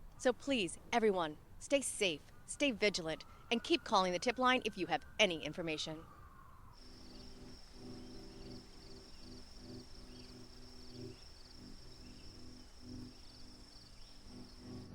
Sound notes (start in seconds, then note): 6.7 crickets chirping; 10.8 soft music